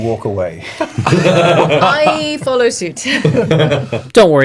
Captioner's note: all laugh